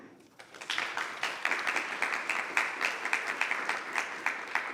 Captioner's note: members clapping